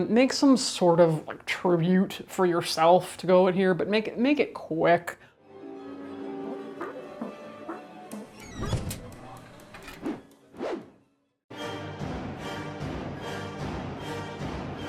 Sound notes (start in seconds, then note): 5.6 exciting music; 8.1 hinges squeaking; 11.6 fast exciting music